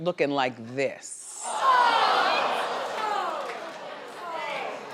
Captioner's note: audience booing